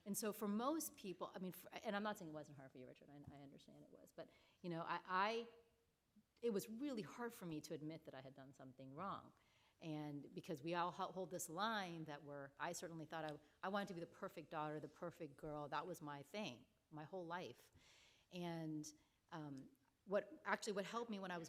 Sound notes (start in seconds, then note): none